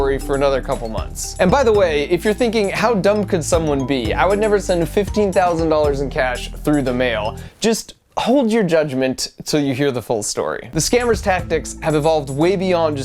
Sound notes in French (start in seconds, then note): none